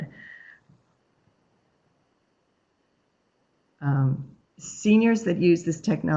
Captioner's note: no sound